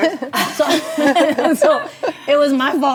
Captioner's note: ladies laughing